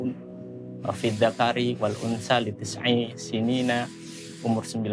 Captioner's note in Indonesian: Bicara dalam bahasa Arab